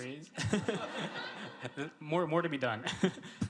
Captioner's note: laughing